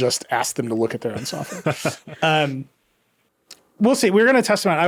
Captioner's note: laughing